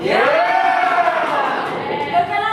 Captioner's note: animals cheer